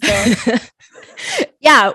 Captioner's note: both laughing